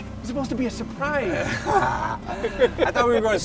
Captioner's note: laughing